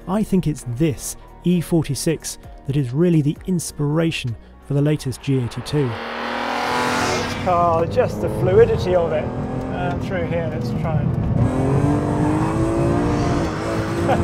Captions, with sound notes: I think it's this E46 that is really the inspiration for the latest G82. (car engine rasping) This car, just the fluidity of it through here. Let's try it. (car engine rasping)